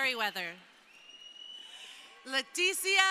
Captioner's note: crowd cheering